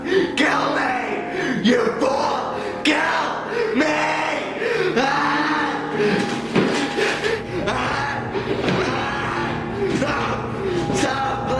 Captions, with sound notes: Kill me!!! You Fool!! KILL ME!!!! [Pained Screaming] [Screaming] No! Stop!!